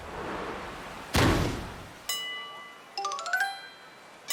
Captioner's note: bang!!